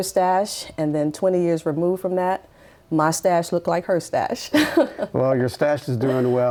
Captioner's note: laughs